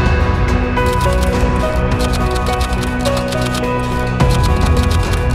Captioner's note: typewriter clicking